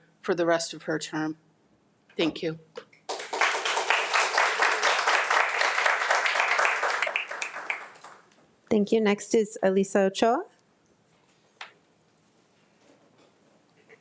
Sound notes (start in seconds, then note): 3.0 attendees applauding